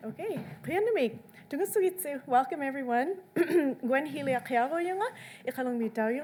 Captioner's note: speaks in foreign language